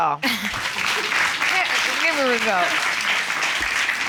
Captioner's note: audience applauds